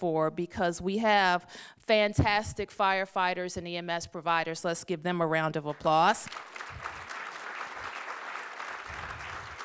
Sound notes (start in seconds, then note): 5.7 applause